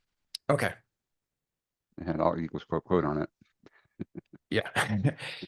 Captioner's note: laughing